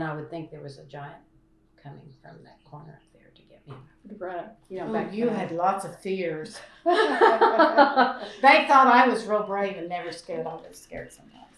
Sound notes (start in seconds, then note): 6.8 laughter